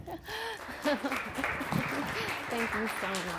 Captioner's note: clapping